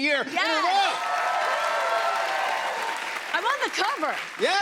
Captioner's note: cheers and applause